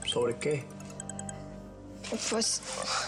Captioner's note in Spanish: suena celular